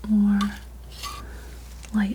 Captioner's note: scratching